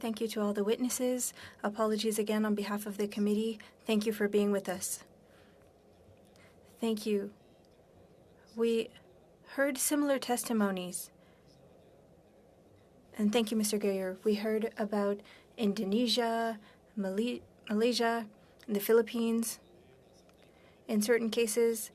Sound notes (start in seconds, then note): 4.9 speaking French